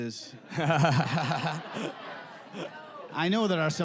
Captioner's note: audience laughing